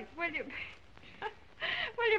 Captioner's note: laughs